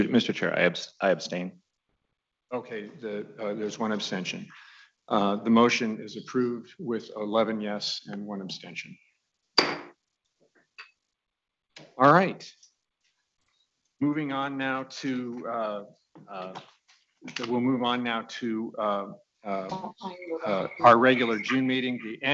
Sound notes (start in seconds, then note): 9.6 gavel banging